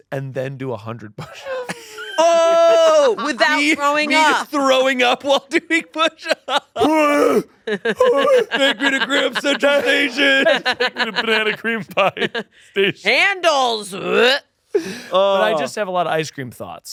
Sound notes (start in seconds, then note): 6.8 groaning; 7.7 laughing; 13.9 groans